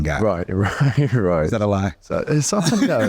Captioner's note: Colman laughing; chuckling